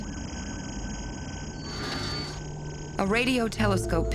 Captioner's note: electronic warbling